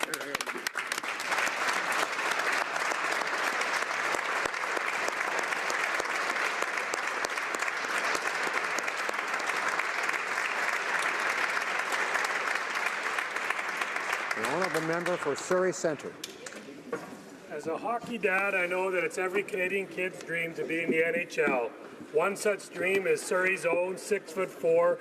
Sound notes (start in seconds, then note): 5.7 speaking native language; 7.9 applause